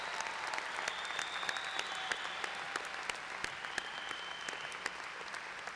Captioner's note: applause